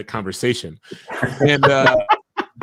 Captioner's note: laughing